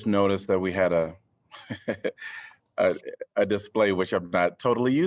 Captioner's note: laughter